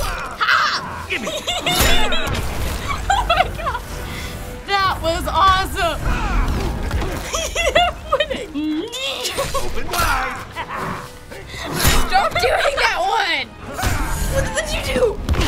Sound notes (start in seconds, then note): 1.0 giggles uncontrollably; 6.2 Green Arrow grunting, Joker chuckling; 9.7 grunts